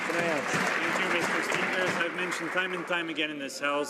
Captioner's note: some Applause